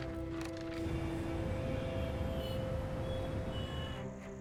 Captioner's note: traffic sound